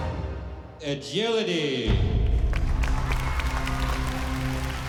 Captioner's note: cheering and applause